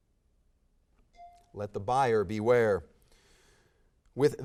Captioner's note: bell dings